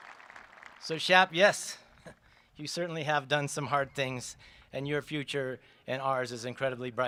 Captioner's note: applause